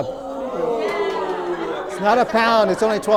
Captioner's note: oohhs from participants